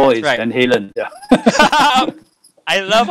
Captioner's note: laughing